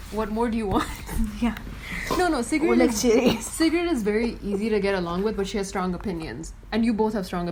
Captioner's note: laughs